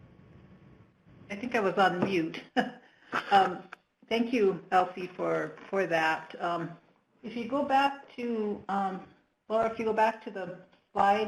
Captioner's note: laughs